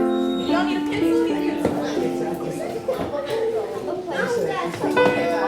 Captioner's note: group chattering